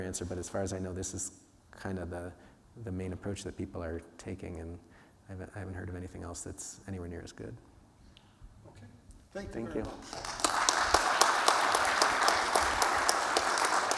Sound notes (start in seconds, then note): 11.3 applause